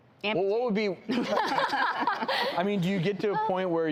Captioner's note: group laughs